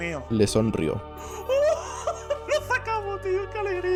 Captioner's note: gasps and laughs